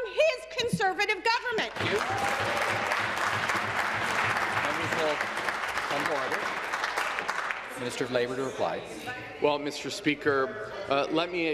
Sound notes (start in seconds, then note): 5.5 applause